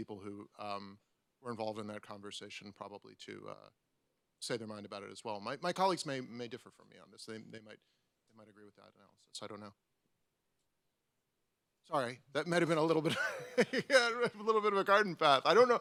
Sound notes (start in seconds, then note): 13.0 laughs